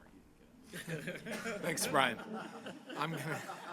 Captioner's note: laughter